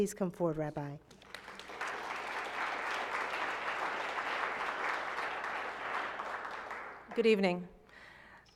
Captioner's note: applause